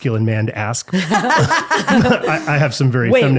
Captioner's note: laughing